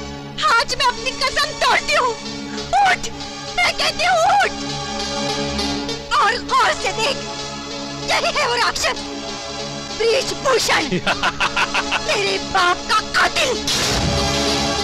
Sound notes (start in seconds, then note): 10.5 laughing